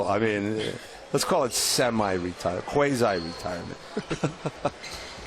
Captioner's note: laughter